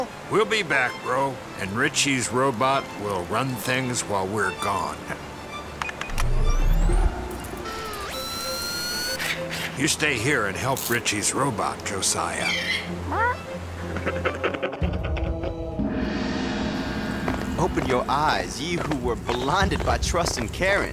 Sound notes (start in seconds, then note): 6.1 robot launching; 13.8 evil chuckle